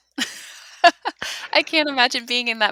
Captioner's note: laughs